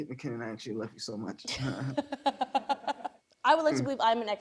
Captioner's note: laughs; chuckles